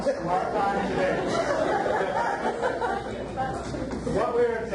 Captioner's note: audience laughs